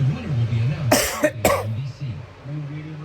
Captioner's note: continues playing; coughs; continues playing